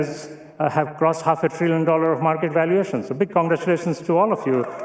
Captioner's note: cheering